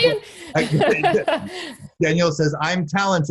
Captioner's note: laughing